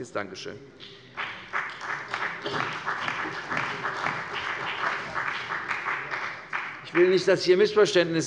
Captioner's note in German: Beifall bei der CDU und dem BÜNDNIS 90/DIE GRÜNEN